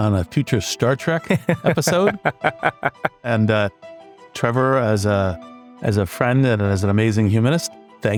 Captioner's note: laugh